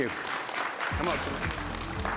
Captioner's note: applause